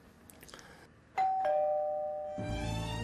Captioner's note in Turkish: Kapı zili sesi